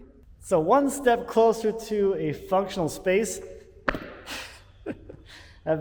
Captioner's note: laughs